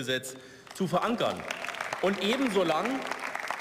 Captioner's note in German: Beifall